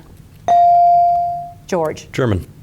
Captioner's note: bell dings